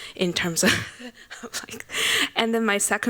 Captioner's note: laughs